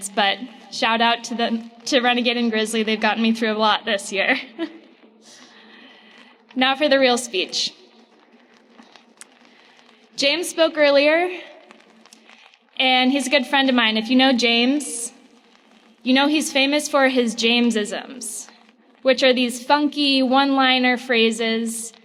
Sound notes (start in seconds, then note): 4.9 laughs